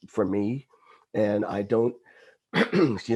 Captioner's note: clears throat